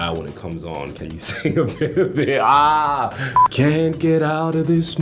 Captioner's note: laughing